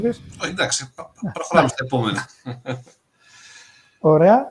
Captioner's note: γέλια